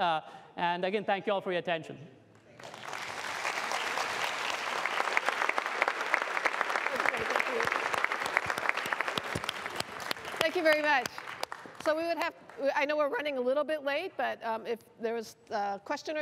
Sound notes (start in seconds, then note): 3.0 applause